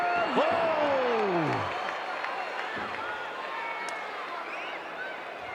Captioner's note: audience cheering